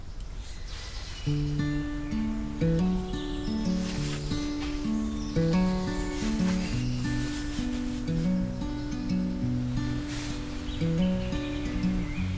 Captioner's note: birdsong